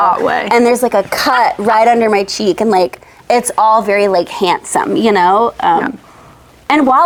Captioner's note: laughs